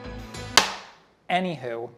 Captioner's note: meat slaps